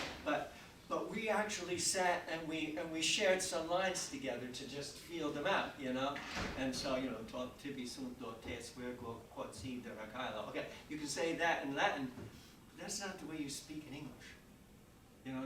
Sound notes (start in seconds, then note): 6.2 door thudding; 7.3 speaks in Latin